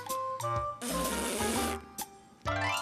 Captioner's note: blowing nose